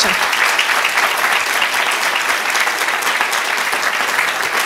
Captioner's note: audience clapping